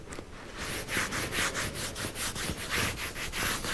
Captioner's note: wiping sounds